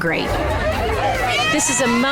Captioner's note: women cheering